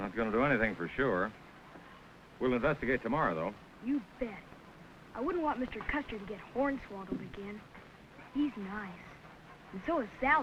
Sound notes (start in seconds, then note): none